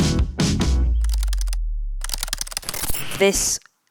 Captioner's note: keyboard clacking